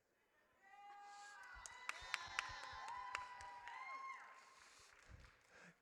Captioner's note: audience cheers